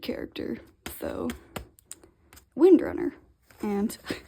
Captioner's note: tap tap; laughs